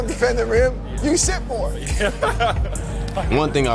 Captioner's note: laughs